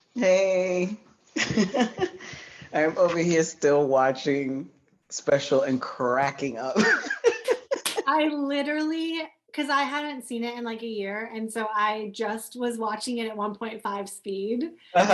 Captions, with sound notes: Hey [laughter] I'm over here still watching, Special and cracking up. I literally because I haven't seen it in like a year and so I